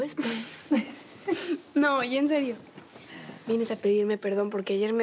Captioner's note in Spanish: risas